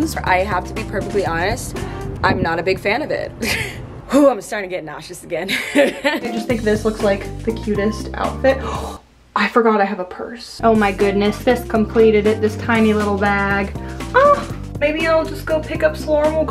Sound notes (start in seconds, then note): 3.6 laughs; 5.5 laughs; 8.6 gasps